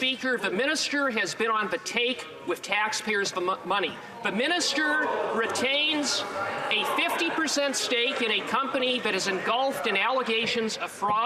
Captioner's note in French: voix de l'interprète